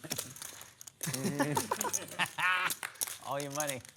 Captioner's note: laughter